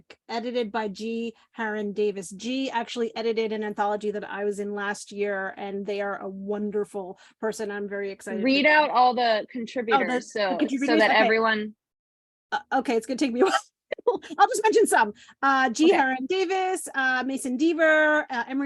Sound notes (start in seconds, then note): 13.4 laughs